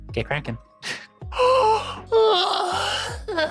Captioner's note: yawning